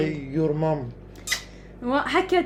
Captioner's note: kisses